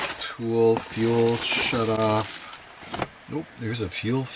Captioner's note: plastic rustling